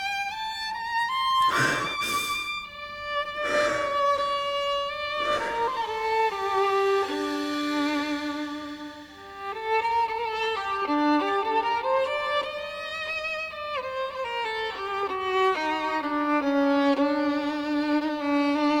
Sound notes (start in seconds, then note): 3.3 heavy breathing